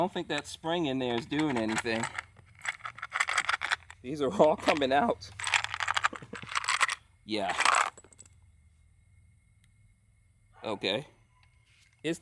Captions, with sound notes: I don't think that spring in there's doing anything. (rattling) These are all coming out. (rattling) Yeah. (rattling) OK.